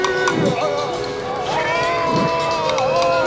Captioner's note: man yelling